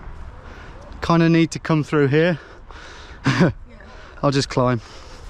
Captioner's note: chuckles